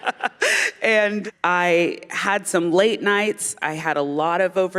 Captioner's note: laughter